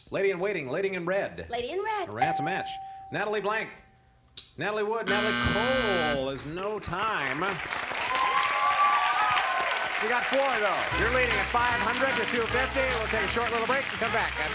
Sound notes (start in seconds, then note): 5.0 buzzer; 9.5 cheers